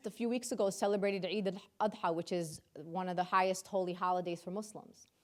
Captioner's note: speaking in foreign language